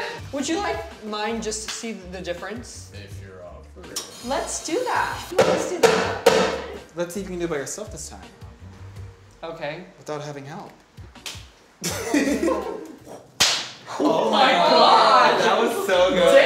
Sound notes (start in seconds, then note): 13.4 smack